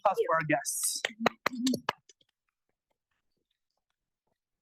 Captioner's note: applause